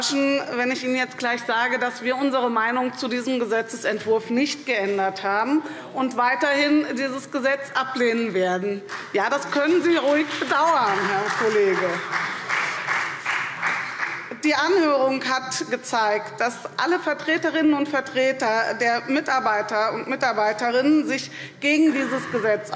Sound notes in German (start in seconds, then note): 8.5 Beifall SPD - Zuruf CDU: Oh!